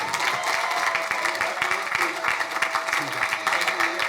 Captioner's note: crowd cheering